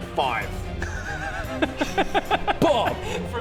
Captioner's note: unsympathetic laugh